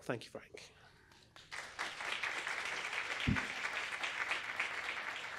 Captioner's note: applause